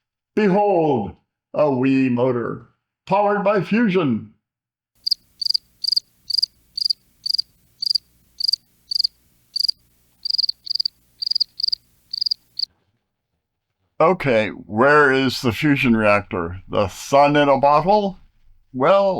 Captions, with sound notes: Behold! A wee motor. Powered by fusion! (cricket noises) Okay, where is the fusion reactor? The sun in a bottle? Well,